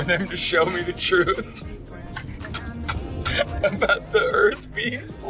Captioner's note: laughter